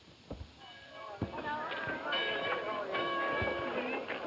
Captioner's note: group chatter